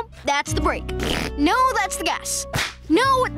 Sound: tapping whoopee cushion

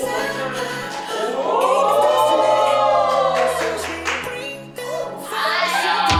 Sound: applause

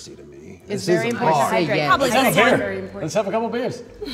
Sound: people talking

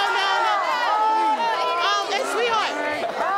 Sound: audience yelling

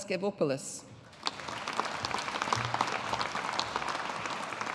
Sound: audience applauding

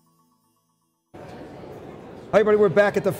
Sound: crowd chattering in background

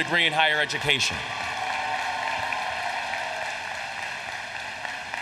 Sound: applause

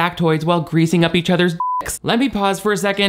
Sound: beep

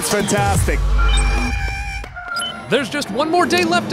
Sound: electronic whirring

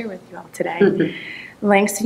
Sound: man laughs

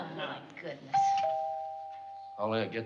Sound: doorbell ringing

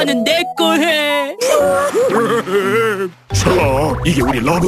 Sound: crying

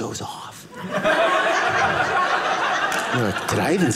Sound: audience laughing

